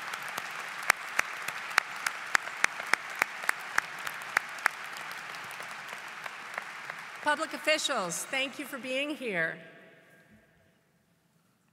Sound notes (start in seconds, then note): 0.0 applause